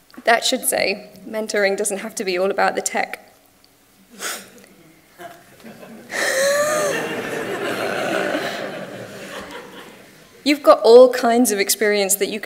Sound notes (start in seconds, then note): 5.1 audience laughs; 5.2 laughs